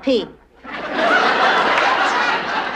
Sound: audience laughter

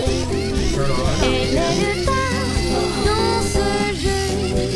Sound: robotic whirring

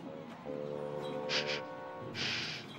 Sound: sniffles

